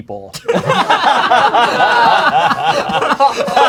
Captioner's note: crowd laughing